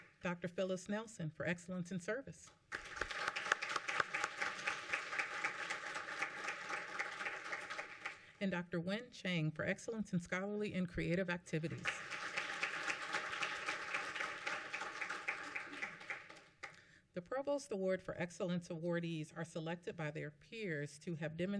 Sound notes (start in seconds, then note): 0.0 applause; 2.6 applause; 15.1 applause